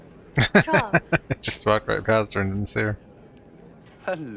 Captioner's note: laughing